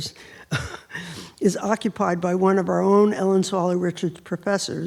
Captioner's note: laughs